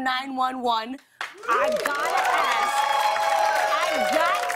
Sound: cheers and applause

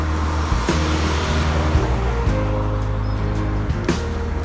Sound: sound of cars passing

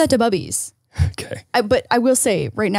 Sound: laughs

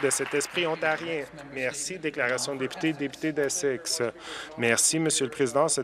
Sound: some Applause

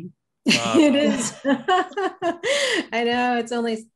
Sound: laughs

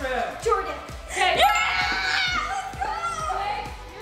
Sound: yells excitedly

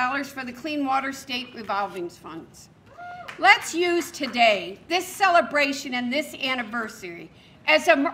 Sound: cheers

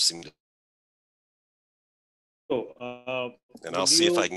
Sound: glitch

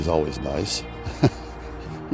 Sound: chuckles

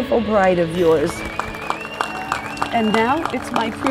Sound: cheering

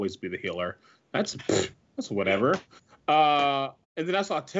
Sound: blows a raspberry

